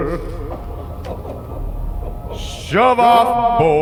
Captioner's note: man cries